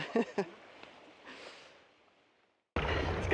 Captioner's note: laughter